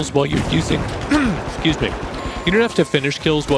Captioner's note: voice breaks; coughs